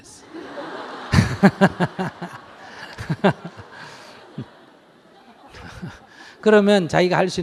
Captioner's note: audience Laughter